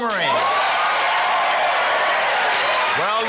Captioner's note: cheering, applause